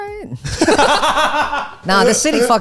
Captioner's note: all laughing